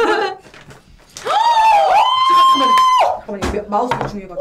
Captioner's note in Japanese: カオスの間、急に歓声！？